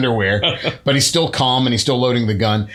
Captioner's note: laughter